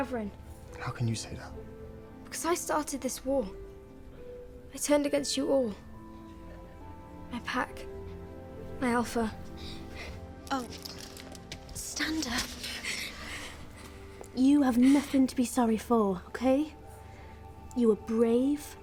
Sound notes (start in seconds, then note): 14.4 Emilia sobs